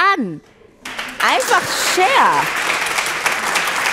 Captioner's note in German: Applaus